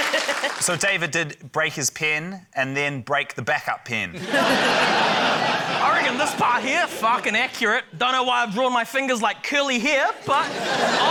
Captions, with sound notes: - So David did break his pen and then break the backup pen. (LAUGHTER) - I reckon this part here ― fuckin' accurate. Don't know why I've drawn my fingers like curly hair, but...